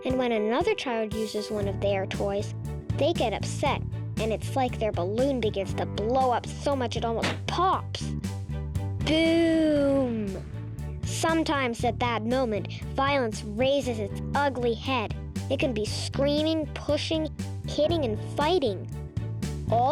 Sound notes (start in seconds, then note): 7.2 balloon pops; 9.7 explosion booms